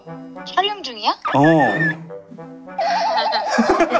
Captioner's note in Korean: 깨갱